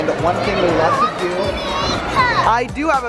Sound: exclaims

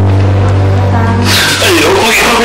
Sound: gasps

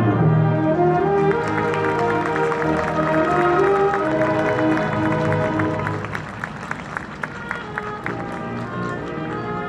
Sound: applause

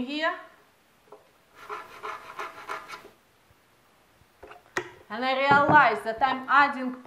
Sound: scrapping noise from inside Vitamix pitcher

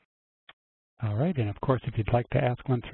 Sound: voiceover

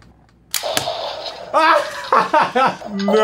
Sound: laughs

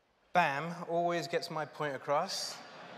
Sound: laughter

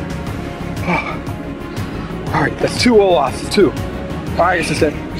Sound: panting

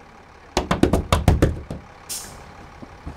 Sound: banging on bus window

